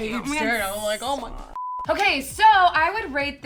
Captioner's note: beep